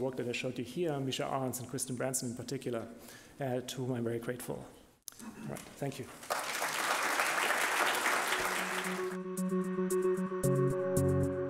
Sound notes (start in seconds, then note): 6.2 audience applauding; 8.3 upbeat music